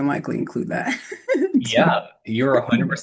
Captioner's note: laughter